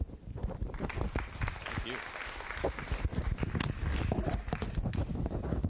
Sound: applause

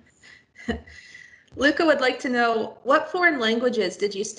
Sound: laughs

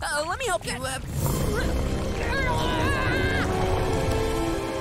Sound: grunting

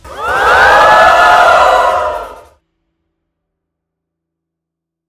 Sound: cheering

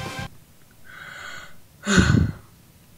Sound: sigh

